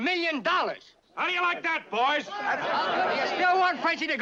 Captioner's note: clamoring